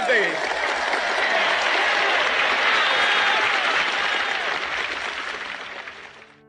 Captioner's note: crowd Cheering